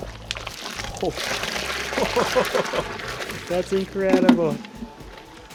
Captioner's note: laughing